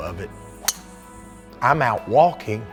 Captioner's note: cracking